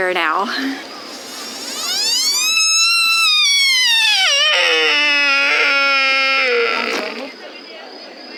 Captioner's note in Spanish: ciervo macho llamando